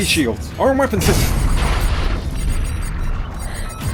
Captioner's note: loud crash; alert beeping